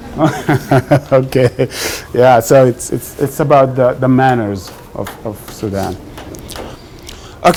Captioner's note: laughs